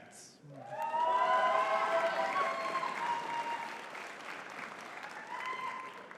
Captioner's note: audience cheering and clapping